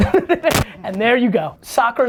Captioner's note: laughs